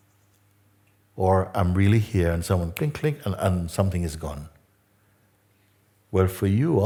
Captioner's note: click